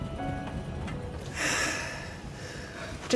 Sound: sighs

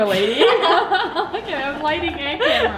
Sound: laughing

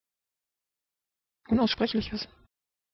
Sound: fast Pronunciation

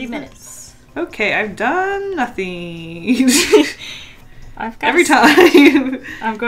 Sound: laughs

